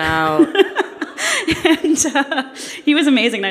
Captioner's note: laughs